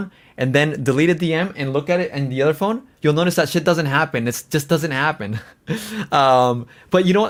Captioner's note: laughs